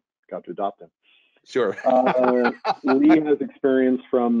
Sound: laughs

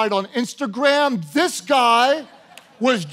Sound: congregation laughing

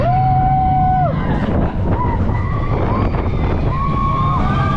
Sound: people screaming

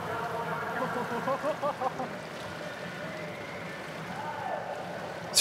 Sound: laughing

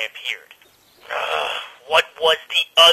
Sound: exasperated groan

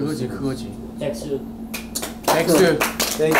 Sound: applause

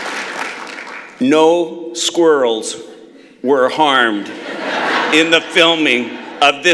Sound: laughter

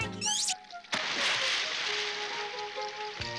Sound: splashes

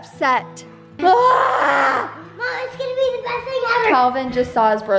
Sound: screaming

